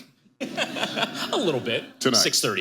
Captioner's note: laughing